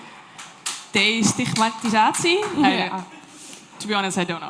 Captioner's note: speaking dutch